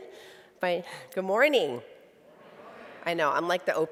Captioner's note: crowd